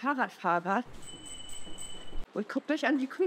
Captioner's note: bike bell